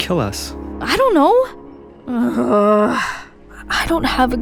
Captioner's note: groan